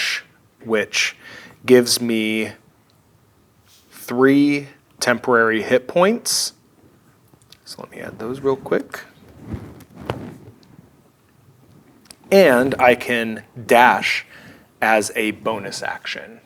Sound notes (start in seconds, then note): none